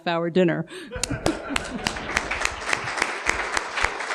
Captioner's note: clapping